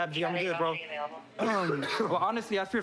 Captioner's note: coughs